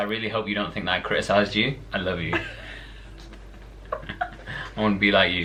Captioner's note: laughter